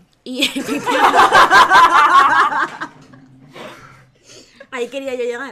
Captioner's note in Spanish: risas